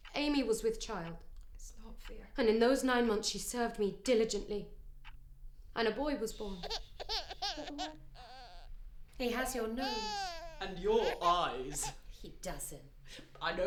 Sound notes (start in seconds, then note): 6.3 baby crying